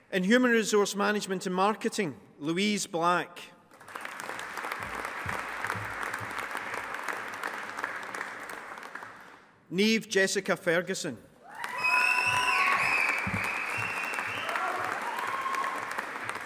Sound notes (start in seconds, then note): 3.7 audience applauding; 11.5 attendees applauding and whistling